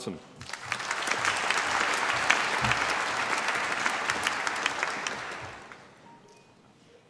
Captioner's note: applause